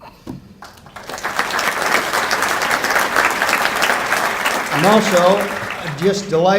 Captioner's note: applause